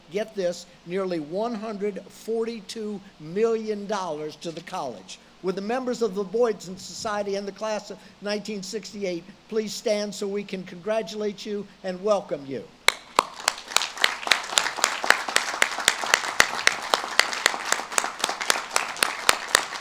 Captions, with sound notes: get this, nearly 142 million dollars to the college. Would the members of The Boydton Society and the Class of 1968, please stand so we can congratulate you and welcome you. (audience claps)